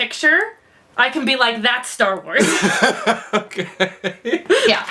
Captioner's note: laughs